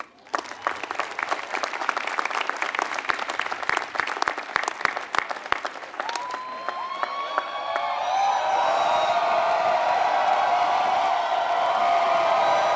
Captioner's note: applause